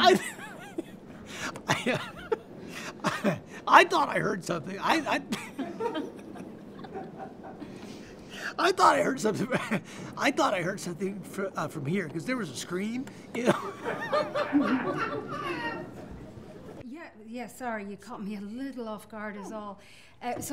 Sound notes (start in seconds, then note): 0.6 laughs; 4.9 laughter; 13.3 laughter